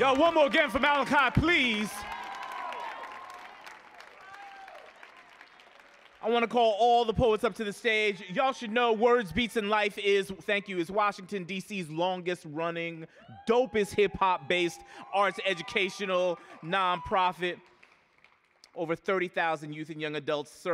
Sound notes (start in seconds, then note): 2.1 audience applauding